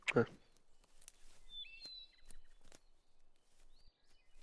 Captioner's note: birds chirping